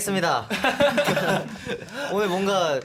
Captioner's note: tertawa